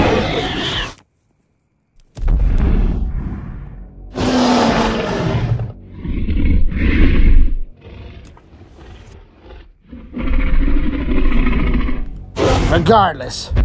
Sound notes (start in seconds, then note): 4.1 Omega Rex Stomps and Growls